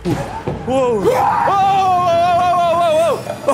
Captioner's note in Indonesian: Ahhhhh!